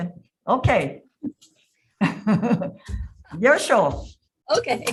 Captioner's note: laughs